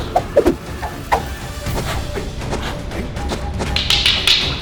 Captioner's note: sticks swooshing